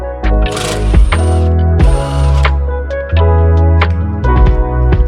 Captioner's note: screwdriver rasping